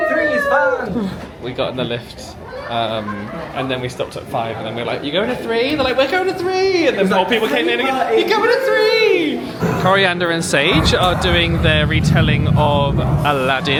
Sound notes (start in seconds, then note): 0.0 group cheers; 8.7 cheers